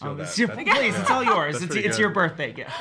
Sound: laughing

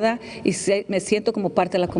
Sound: speaking spanish

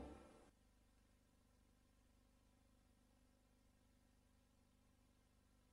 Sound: quiet VHS static

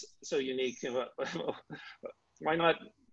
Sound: chuckling

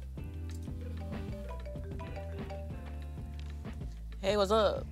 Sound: phone ringing

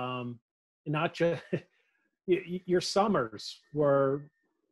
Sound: laughs

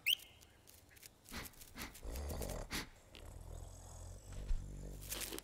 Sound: animal panting and grunting

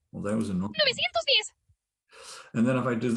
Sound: speaking spanish

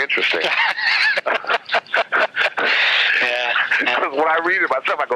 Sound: both laugh

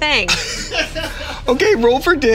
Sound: laughing in the background

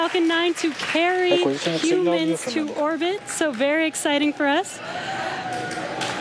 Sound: cheering and Applause

